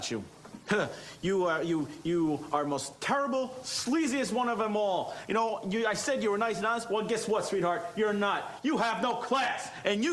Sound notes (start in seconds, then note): none